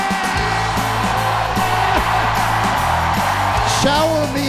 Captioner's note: audience cheering loudly